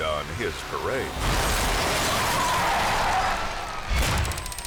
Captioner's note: car crashing